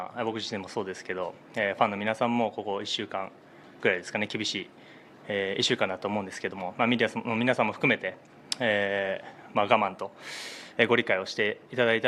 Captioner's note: speaking in global language